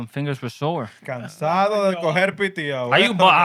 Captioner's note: speaking Spanish